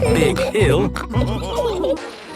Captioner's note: all laughing